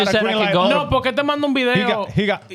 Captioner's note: speaking In Foreign Language